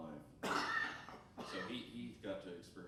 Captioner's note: coughing